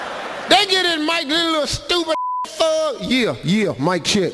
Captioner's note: audience laughs; beeping